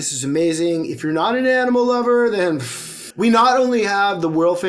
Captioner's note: scoffs